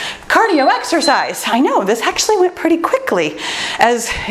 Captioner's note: timer beeps